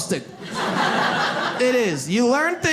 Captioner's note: audience laughs